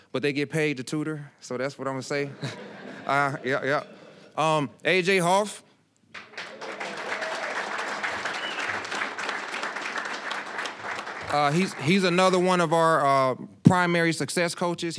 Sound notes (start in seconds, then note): 2.2 audience laughing; 6.1 applause, cheering; 9.8 applause